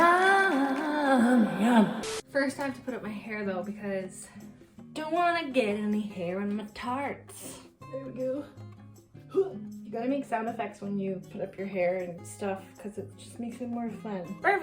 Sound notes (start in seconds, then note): 0.0 people cheering; 8.0 groaning